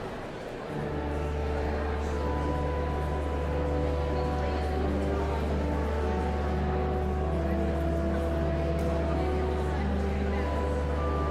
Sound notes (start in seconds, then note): 0.1 joyful organ music continues; 4.4 audience chattering continues